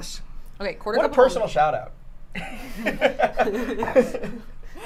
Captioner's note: laughs